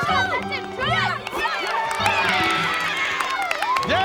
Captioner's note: cheering